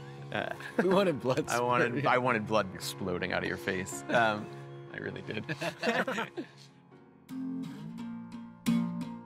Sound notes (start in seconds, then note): 5.4 all laughing